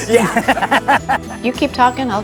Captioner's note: laughs